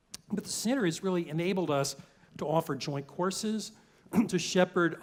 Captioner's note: cough